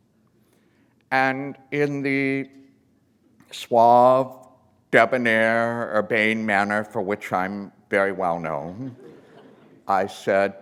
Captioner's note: laughter